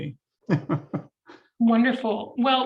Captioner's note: laughs